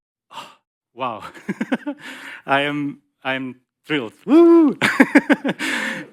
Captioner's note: laughs